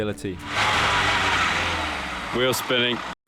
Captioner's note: engine revving